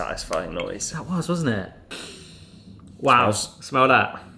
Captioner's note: sniffs